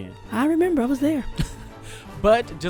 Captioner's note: laughs